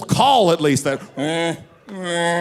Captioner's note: imitating moose crying